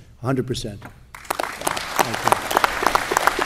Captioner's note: applause